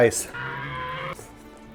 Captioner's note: dino screech